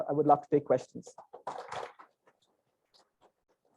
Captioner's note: applause